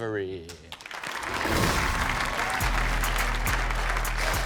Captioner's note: audience applauding